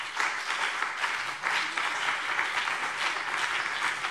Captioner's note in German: Beifall BÜNDNIS 90/DIE GRÜNEN und vereinzelt CDU